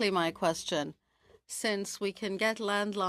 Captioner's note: speaking French